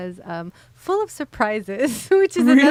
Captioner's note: laughs